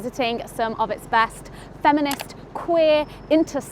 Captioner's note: button clicks